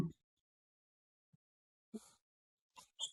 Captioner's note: laughing